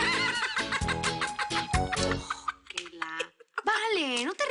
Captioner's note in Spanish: Risas